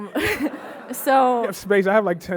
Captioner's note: audience laughing